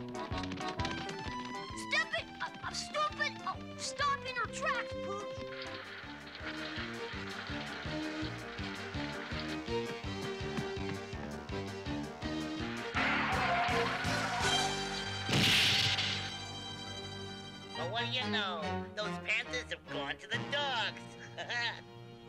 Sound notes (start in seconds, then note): 12.5 tires screeching; 21.1 laughs